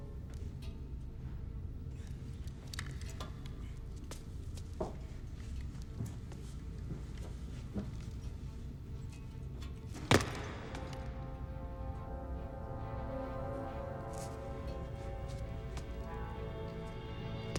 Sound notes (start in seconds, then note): 9.9 feet thudding; 11.2 suspenseful music